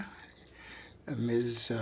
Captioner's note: speaking French